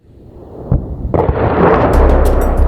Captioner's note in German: Detonation